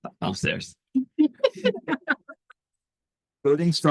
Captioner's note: laughter